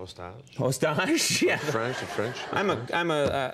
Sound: laughing

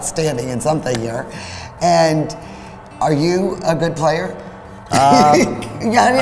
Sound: chuckles

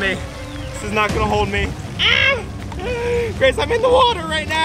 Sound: shrieks

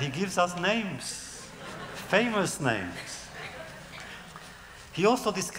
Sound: laughter

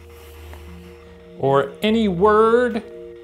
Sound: swishing

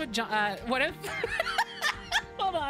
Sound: laughter

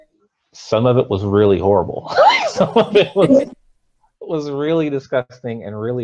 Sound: both laughs

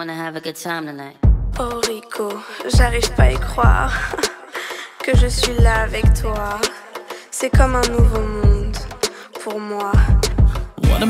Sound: woman speaking french

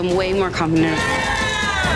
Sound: cheers

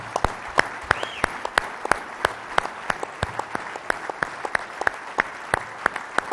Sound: audience applauding and cheering

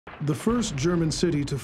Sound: sound of explosions; voiceover

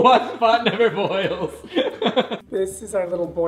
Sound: giggling

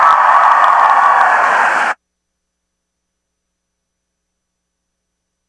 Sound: audience enthusiastically applauding

